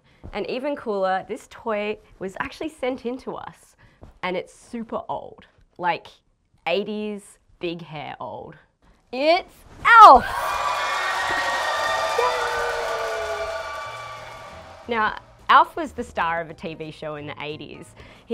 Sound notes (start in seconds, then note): 10.0 crowd cheers